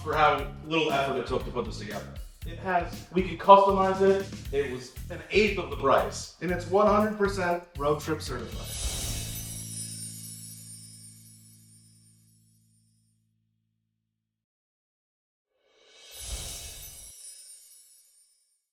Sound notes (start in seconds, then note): 9.0 bells ringing